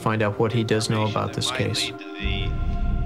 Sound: on phone

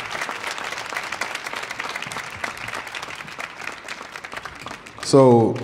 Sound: audience applauding

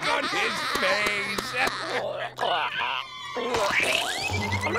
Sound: coughing

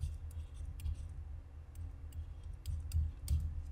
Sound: writing sound

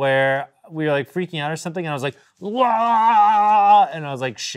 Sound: yelling

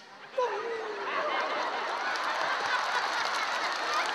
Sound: crowd laughs

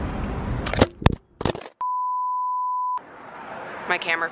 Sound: thuds; beeps

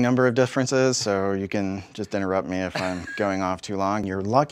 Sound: laugh

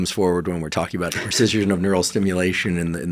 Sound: chuckling

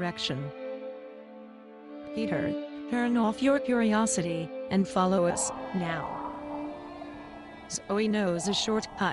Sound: ghostly wailing begins and intensifies

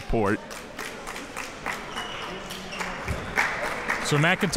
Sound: crowd clapping

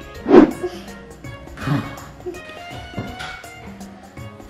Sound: shuddering breath

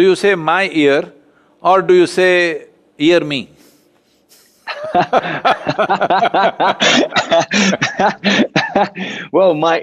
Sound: both laugh

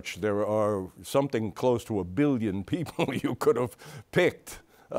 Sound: chuckles

